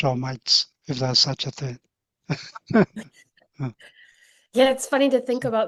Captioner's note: laughs